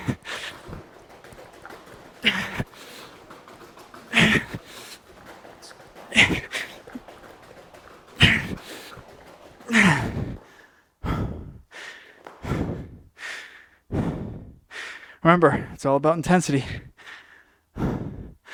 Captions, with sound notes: (breathing) Remember, it's all about intensity.